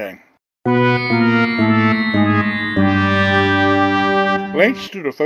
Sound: fail sound

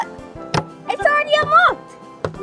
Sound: door banging

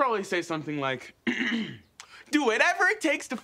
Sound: clears throat

